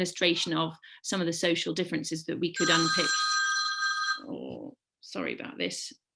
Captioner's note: phone rings